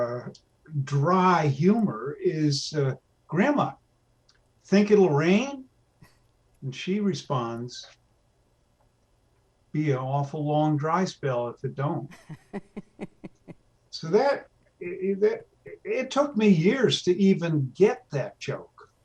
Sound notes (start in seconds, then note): 12.2 laughs